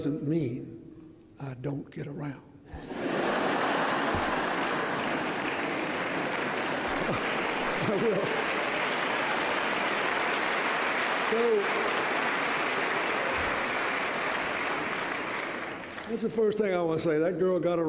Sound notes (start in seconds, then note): 6.7 laughter; 8.2 applause